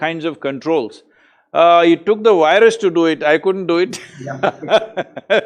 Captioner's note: laughs